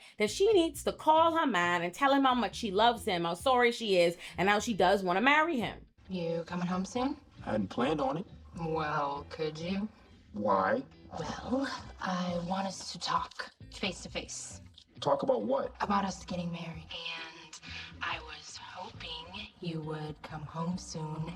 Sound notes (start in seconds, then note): none